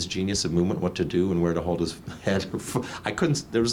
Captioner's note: laughs